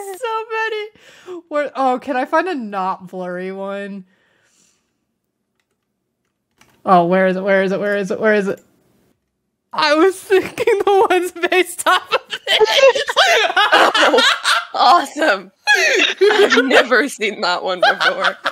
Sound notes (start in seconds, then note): 11.6 laughing; 15.6 laughing